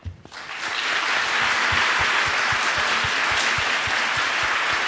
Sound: audience applauds

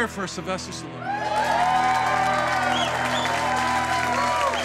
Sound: crew cheers

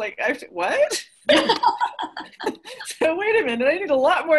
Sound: everyone laughs

